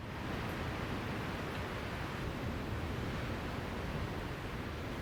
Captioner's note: sound of waves crashing